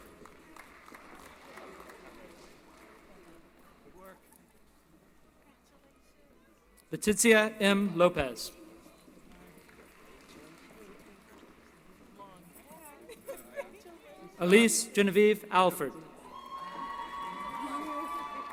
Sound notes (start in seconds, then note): 0.0 applause; 9.2 applause